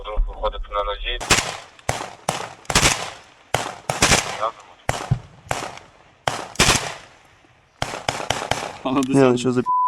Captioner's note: sound of gunshots